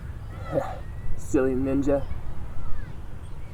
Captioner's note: chuckles